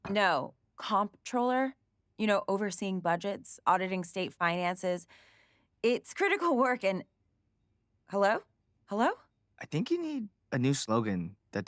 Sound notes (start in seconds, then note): none